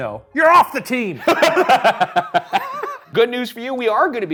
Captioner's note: both laughing